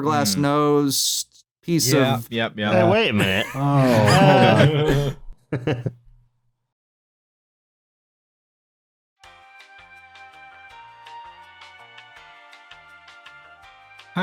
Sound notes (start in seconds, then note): 2.8 laughs; 5.8 chuckles; 9.2 bouncy elevator music